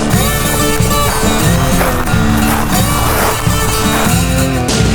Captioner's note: upbeat music; footsteps rustling